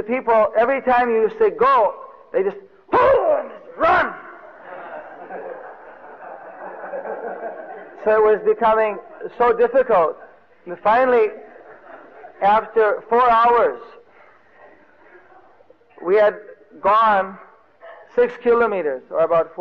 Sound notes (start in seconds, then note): 3.8 loud voice; 6.6 devotees laughing